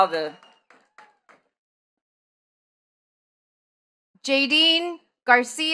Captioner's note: attendees clapping